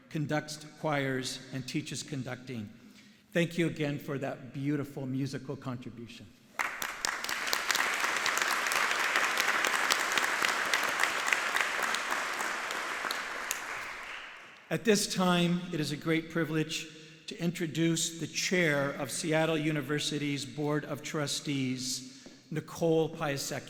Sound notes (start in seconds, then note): 9.8 audience applauding